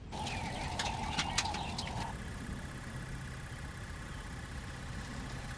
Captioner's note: rickety engine